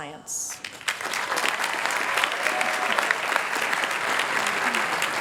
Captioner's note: applause